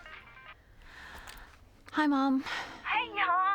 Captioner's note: cell phone rings; sighs